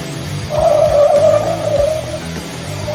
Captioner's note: tires squeal